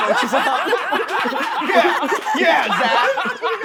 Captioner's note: all laughing